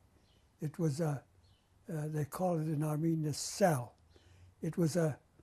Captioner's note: non-english